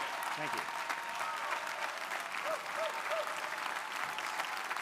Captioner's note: crowd applauding